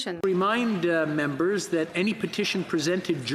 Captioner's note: speaking French